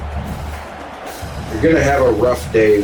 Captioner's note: crowd Noises